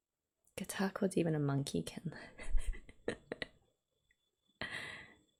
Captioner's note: laughs